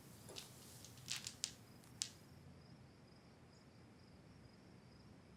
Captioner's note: beads clicking